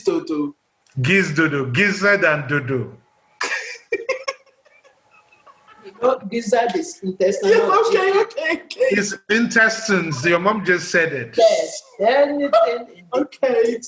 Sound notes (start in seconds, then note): 3.4 laughs